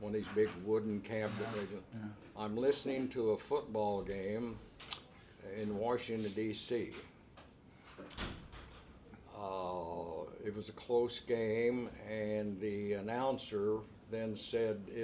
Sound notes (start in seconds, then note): none